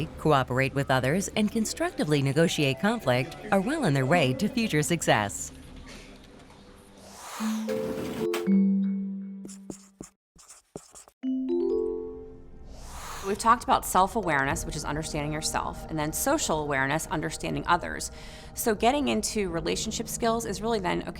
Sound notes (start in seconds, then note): 6.2 gentle music; 10.3 marker scratching; 11.2 gentle music; 12.7 whooshing